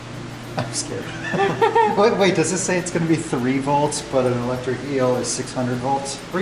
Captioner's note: laughter